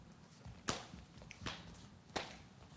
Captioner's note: rhythmic clapping